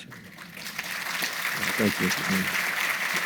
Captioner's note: audience applauding